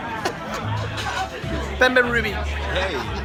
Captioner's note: laughing